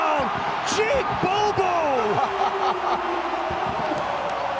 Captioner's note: Tom laughing